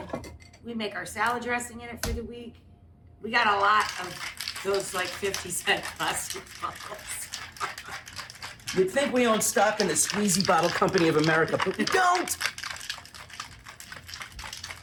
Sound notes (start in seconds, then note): 6.4 ice rattling; 7.6 Rachael laughing